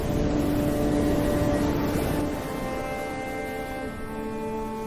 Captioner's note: waves crashing